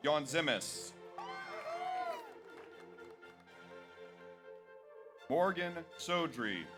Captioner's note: audience cheers; audience applauds